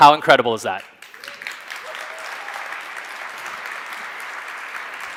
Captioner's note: audience claps